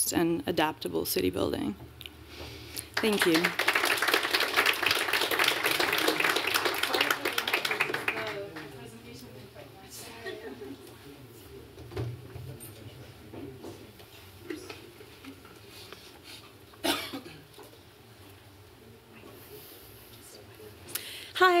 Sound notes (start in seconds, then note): 2.8 applause